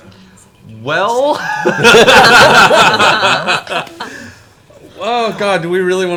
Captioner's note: all laugh